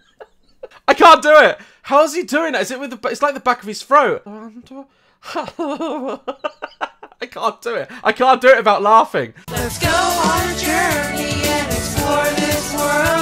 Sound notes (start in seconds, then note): 0.0 laughs; 4.1 Stitch voice; 5.3 laughs